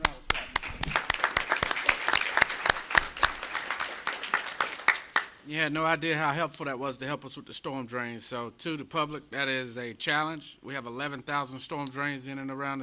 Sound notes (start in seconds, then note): 4.6 applause